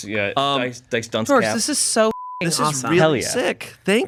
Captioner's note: beep